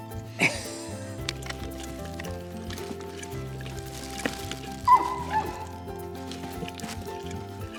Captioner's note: both laugh; Labrador munching; Labrador yips